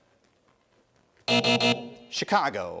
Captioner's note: buzzing